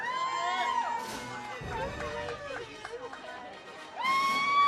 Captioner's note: audience cheers; audience cheers